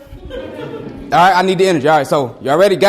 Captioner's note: students laugh